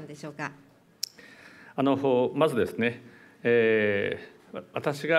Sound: speaking japanese

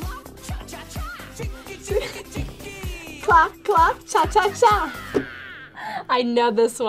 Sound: laughs

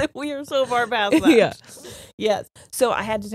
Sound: chuckles; laughs

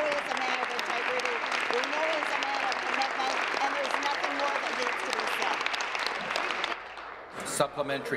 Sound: applause

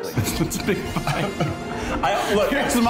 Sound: laughing

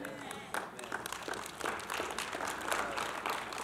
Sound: applause

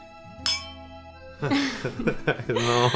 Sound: giggling

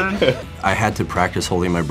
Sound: laughs

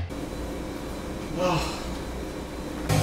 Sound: sighs

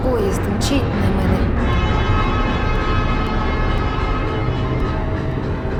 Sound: train horn blares

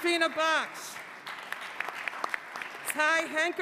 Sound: applause

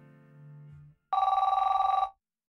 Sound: phone rings

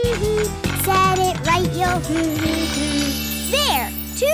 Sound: humming tune

